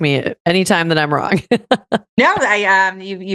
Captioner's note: laughs